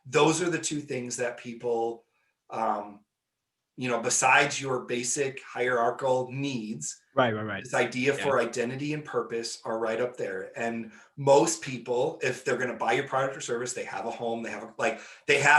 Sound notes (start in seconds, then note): none